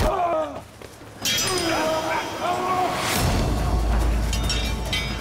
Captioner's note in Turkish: Dövüş sesleri